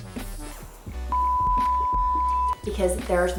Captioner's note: loud beeping